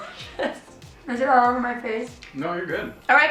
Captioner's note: laughs